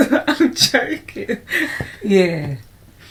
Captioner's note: laughter